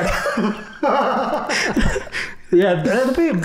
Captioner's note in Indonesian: tertawa